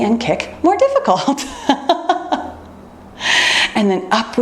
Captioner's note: laughs